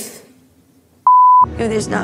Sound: beep

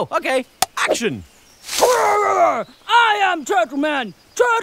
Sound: Lucy growls and speaks in a low voice

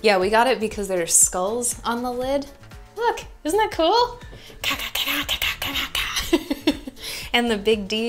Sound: makes metal music sounds

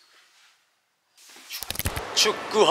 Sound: whoosh

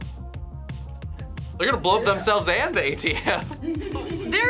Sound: laughs

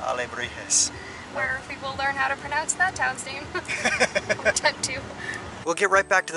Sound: laughter

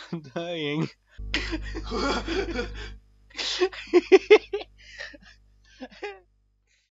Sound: even more laughter

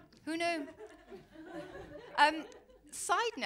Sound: laughter

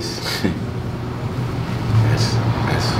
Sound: chuckling

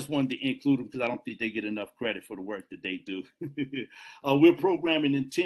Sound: laughs

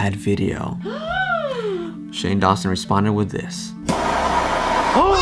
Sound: fake gasps

